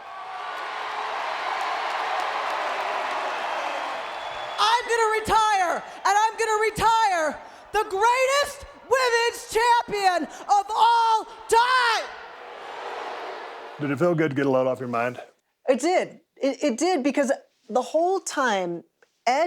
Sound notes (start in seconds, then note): 0.2 audience cheering; 12.4 audience booing